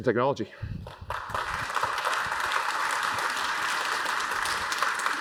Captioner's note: applause